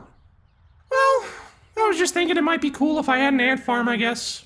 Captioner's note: sighs